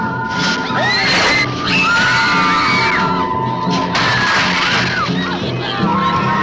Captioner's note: dramatic music; girls screaming